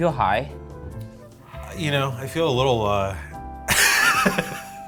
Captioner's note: laughs